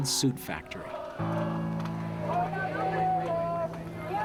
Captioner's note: chanting in Spanish